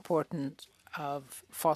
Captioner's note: speaking French